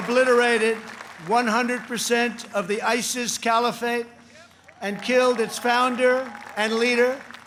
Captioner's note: applause